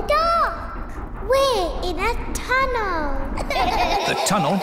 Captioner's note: all gasp; all laugh